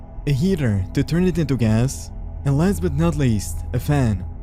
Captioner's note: none